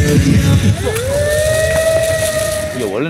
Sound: howl

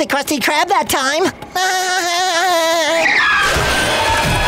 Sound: chuckles; thudding

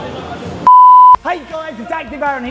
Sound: beeping

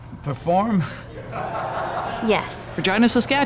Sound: laughter

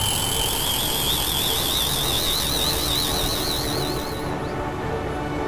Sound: tape rewind noise, bell ringing; ringing noise ascends; sound of machinery

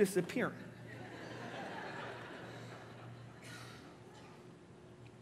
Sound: congregation laughing

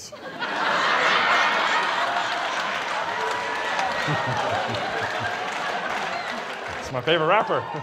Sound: laughter

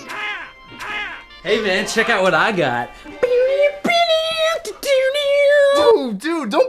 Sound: humming the Intro

